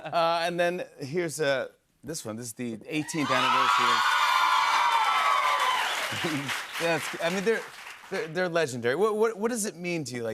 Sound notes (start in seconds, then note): 3.0 cheers and applause